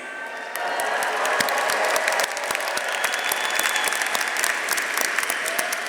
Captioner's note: audience cheering; audience applauding